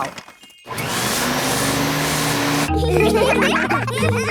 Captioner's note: whirring; all laughing